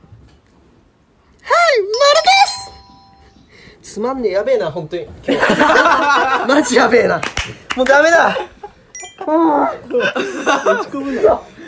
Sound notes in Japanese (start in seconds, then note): 5.7 大爆笑